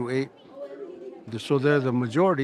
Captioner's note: children chattering